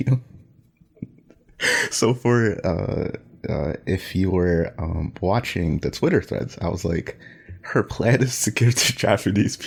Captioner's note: laughs